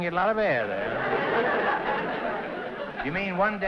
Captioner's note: laughter